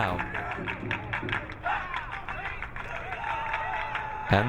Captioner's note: crowd cheering